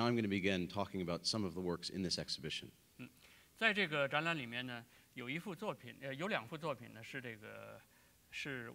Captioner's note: speaking in Chinese